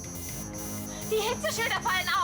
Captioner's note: beeping